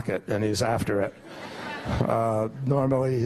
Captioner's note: laughter